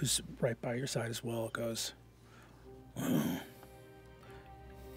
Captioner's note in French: grogne